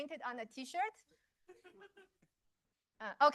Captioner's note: laughter